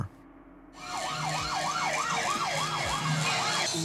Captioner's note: police sirens wailing